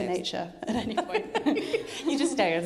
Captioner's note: laughing